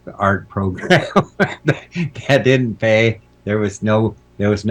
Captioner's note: laughing